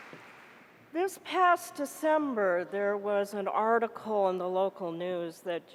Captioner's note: applause